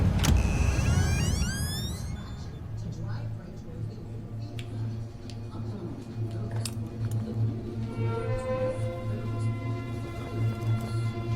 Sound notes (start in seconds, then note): 0.0 door creaking; 3.2 TV sound inside the house